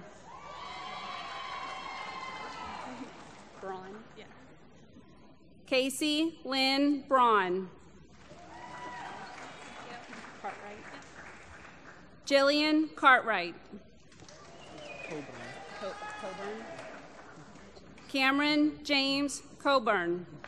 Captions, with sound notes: [ Applause ] >> Braun? >> Yeah >> Casey Lynn Braun. [ Applause ] Jillian Cartwright. [ Applause ] Cameron James Cowburn.